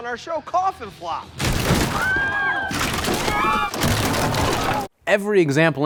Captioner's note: bodies crashing; mourners screaming